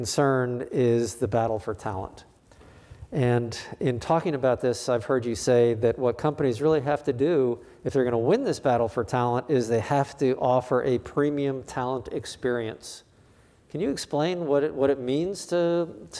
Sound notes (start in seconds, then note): none